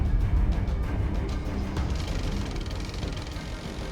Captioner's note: whirring